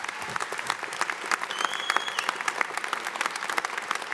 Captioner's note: audience applauding